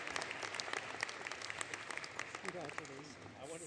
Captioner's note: applause